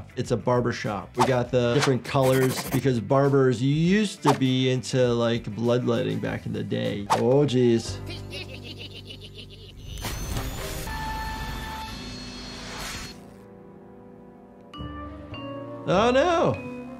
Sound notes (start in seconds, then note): 8.0 raccoons laughing maniacally; 9.9 laser blasting; 14.5 gentle descending music